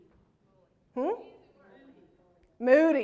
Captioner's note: crowd speaks